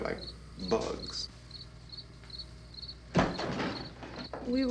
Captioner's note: insects chirping